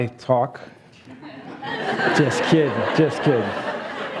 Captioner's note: laughs